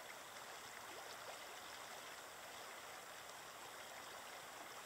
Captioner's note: sound of water flowing